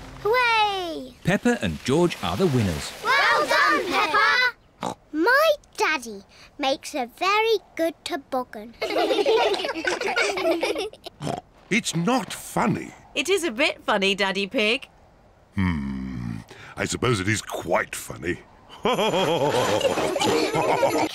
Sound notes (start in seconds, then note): 5.2 snorts; 8.8 all laugh; 11.2 snorts; 18.8 all laugh